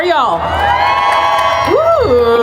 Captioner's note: crowd cheering